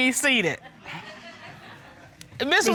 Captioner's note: audience laughs